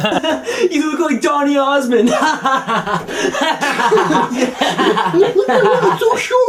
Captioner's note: laughs; laughs